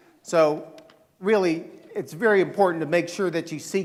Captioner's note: none